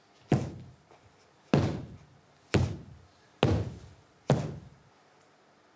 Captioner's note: Victoria thumps her feet